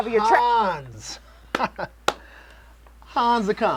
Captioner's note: chuckles